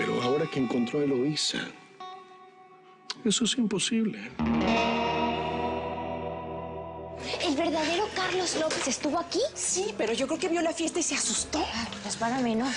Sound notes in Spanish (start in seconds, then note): none